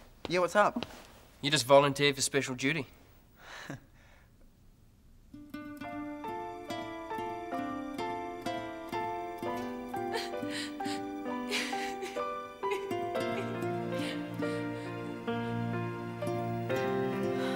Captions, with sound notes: - Yeah, what's up? - You just volunteered for special duty. (crying)